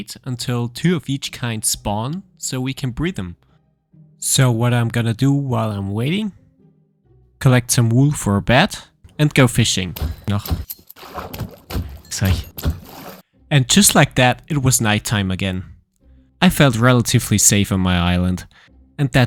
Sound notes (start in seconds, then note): 10.2 experience tinkling; 11.0 sword thwacking